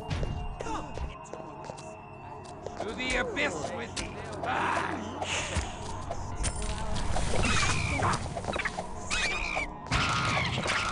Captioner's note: combat sounds